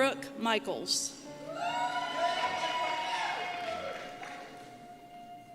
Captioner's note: cheers